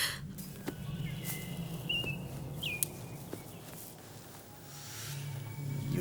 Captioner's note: birds chirping; footsteps tapping